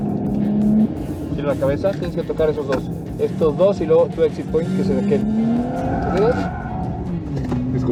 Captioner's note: tyres squealing